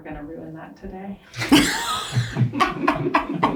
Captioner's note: laughs